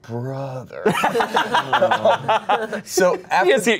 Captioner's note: everyone laughs